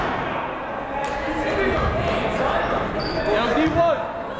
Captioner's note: chattering